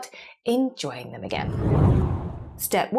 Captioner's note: graphic whooshes